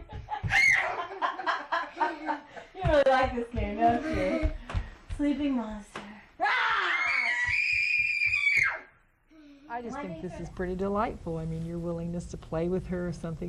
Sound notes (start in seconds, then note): 0.0 laughs; 6.4 screams